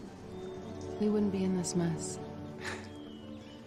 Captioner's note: chuckles